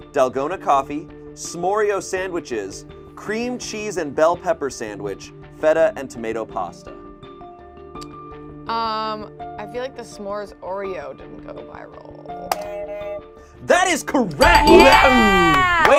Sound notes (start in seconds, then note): 12.6 buzzer rings; 14.4 bell dings